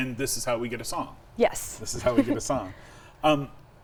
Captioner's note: chuckles